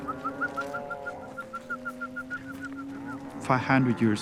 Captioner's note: whistling